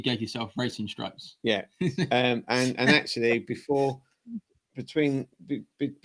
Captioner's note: laughter